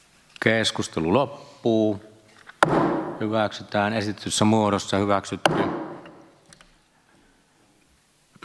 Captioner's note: Nuijan kopautus